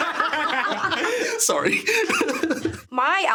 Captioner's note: everyone laughing; laughs